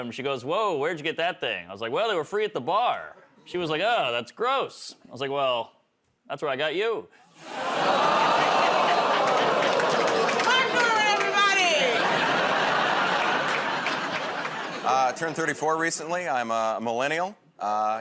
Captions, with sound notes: She goes, "Whoa. Where'd you get that thing?" I was like, "Well, they were free at the bar." She was like, "Oh, that's gross." I was like, "Well, that's where I got you." [ Audience "Oh"s ] -Martin Normand, everybody! [ Laughter ] -Turned 34 recently. I'm a Millennial.